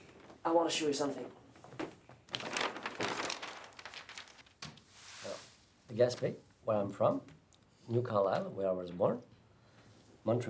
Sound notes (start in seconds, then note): 1.4 map rustles